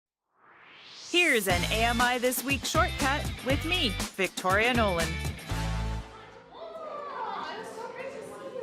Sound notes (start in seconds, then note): 0.2 swoosh